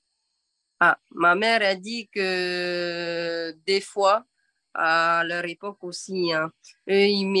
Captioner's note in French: En français